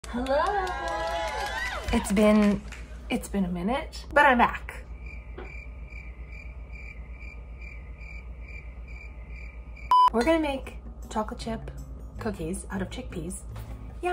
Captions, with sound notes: - Hello. (audience cheering) It's been a minute, but I'm back. (crickets chirping) We're gonna make chocolate chip cookies out of chickpeas.